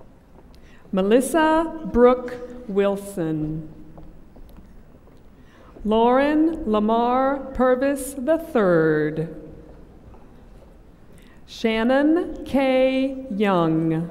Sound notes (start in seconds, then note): none